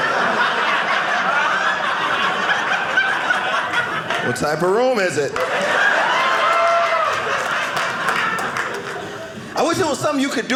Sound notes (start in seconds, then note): 0.0 audience laughing; 5.3 audience cheering